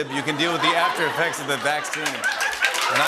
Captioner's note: laughter; applause